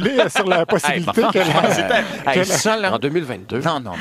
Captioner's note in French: rires